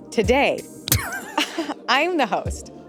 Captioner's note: chuckles